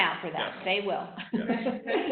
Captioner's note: laughing